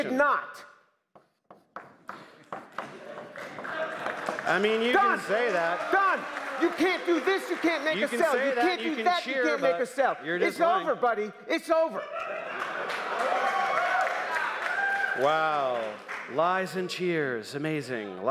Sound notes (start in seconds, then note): 12.1 applause